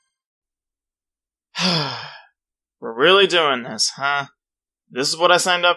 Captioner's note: sigh